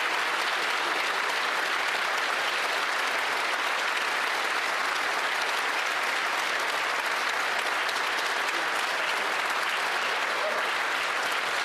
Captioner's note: applause